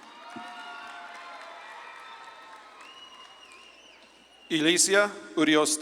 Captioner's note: audience claps and cheers